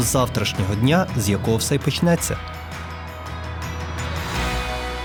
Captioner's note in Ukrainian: оплески